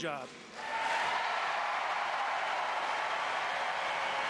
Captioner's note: applause